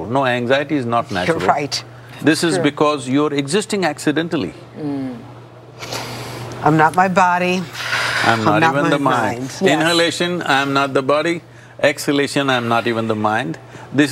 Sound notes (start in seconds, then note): 5.7 gestures - Inhaling; 7.7 gestures - Exhaling